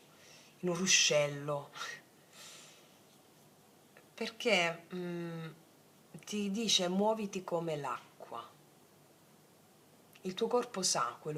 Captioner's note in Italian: sbuffare